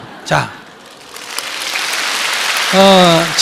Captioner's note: audience applause